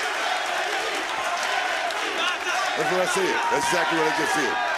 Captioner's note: crowd chants "nxt"